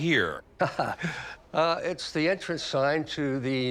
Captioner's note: laughing